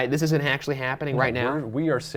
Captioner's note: none